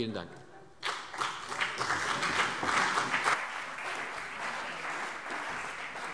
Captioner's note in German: Beifall CDU und BÜNDNIS 90/DIE GRÜNEN